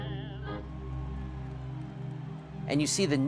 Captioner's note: cheering